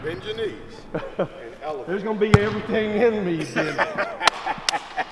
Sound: both chattering; both laughing

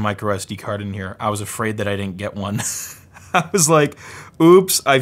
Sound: laughs

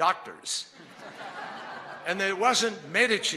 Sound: laughter

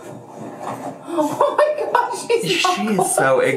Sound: laughs

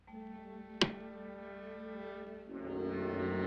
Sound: ominous music; lid shuts; ominous music

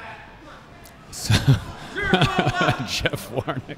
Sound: laughing

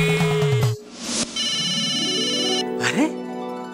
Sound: phone rings

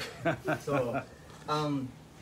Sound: laughter

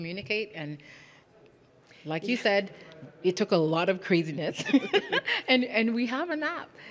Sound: laughs

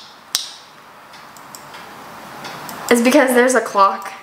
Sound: clock ticking

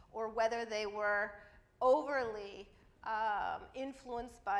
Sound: none

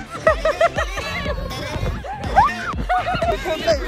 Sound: screams

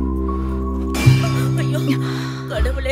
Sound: thuds

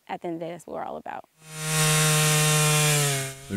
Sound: chainsaw motor

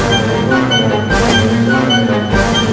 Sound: water splash sound

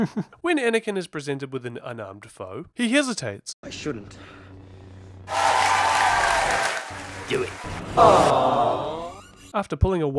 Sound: crown cheering; crowd boos

